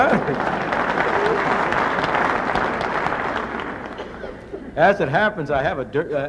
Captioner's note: applause